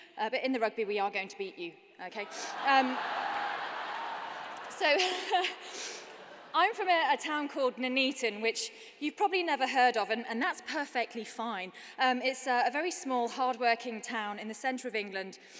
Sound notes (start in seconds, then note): 2.2 laughter; 5.3 laughs